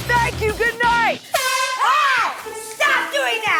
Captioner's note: honk!